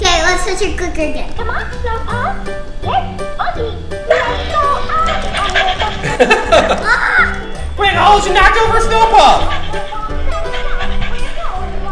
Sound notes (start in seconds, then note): 5.9 laughter